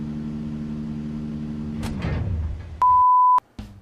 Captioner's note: buzzing sound; powering off sound; beeping